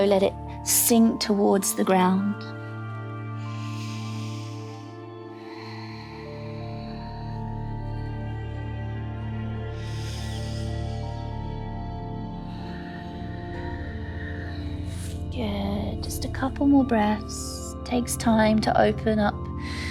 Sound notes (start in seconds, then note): 2.3 inhales; 2.8 calm music; 6.3 exhales; 9.7 inhales; 14.3 exhales